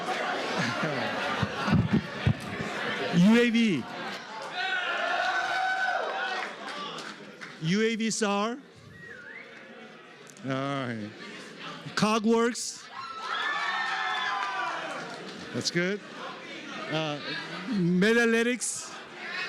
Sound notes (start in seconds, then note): 3.8 cheering; 8.8 whistling; 12.8 cheering